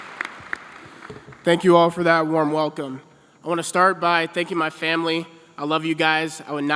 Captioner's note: applause